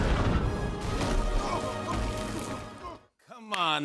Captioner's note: slow-mo shouting; grunts